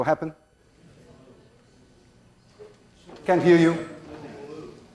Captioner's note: class murmurs